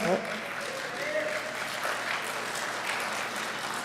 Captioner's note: clapping